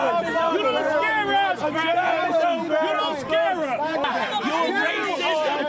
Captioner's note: screaming